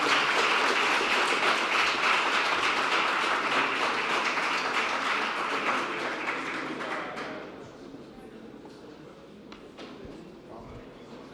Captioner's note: applause